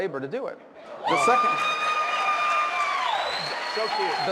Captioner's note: screams